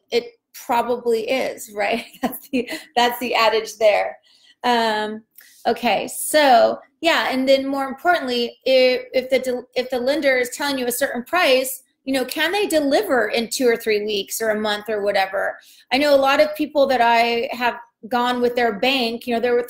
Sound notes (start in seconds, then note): 2.2 laughs